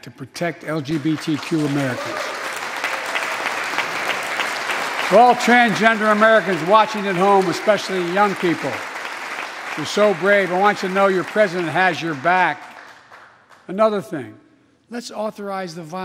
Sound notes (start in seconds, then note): 6.4 applause